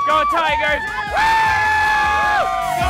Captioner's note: screams